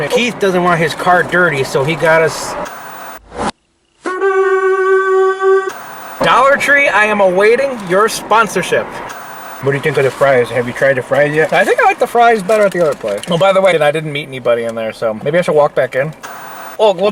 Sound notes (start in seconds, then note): 1.8 static; 4.1 cheerful music